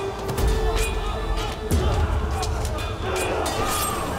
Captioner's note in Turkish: Kılıç sesleri